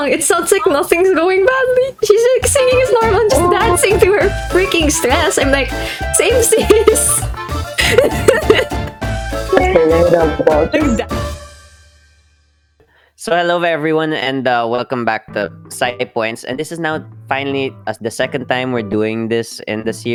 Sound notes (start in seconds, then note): 7.7 kermit laughs nervously